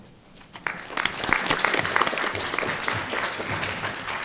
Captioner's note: audience applauds